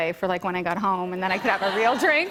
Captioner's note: laughter